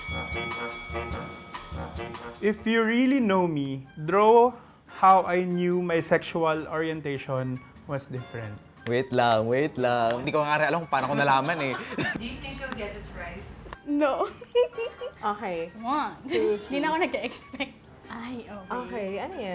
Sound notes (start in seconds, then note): 14.3 laughs